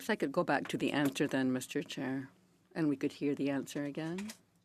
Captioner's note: speaking French